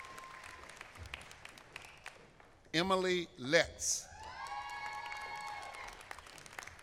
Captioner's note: applause; applause